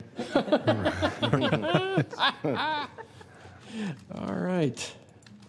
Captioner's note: laughter